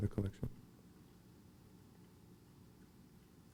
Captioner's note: silence